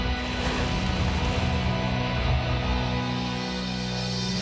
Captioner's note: flames roaring